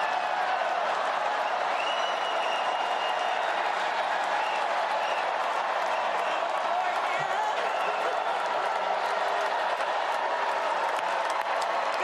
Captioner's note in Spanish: gritos